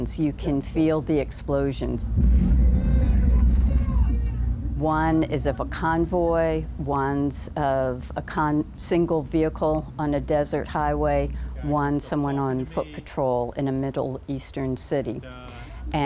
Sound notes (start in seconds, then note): 2.0 muffled explosion; 2.7 muffle chaotic shouting